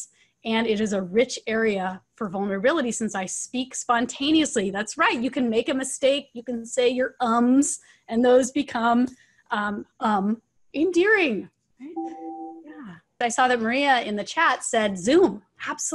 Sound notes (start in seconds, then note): 11.9 chime tone